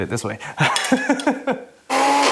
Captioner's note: laughs